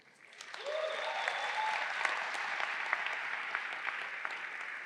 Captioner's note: audience cheering